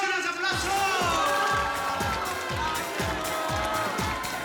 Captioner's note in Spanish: Gritos y exclamaciones